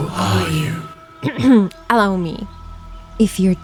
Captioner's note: clears throath